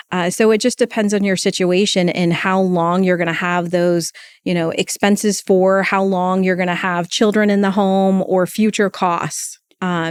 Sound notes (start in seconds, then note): none